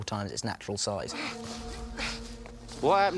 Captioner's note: harry & ron grunting